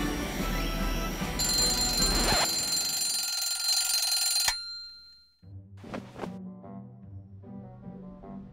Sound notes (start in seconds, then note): 1.2 alarm clock rings